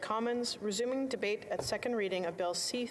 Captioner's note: speaking French